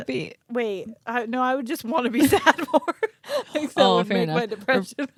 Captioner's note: laughing